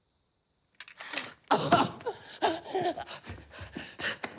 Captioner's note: whimpers and gasps